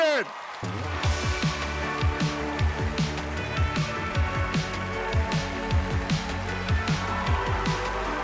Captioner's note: audience cheering; cheerful music